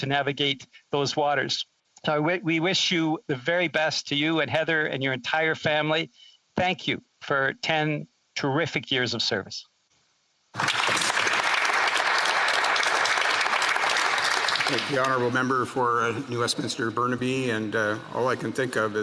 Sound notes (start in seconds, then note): 15.0 some Applause